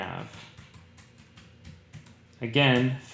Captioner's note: typing